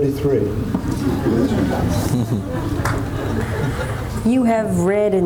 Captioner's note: audience laughs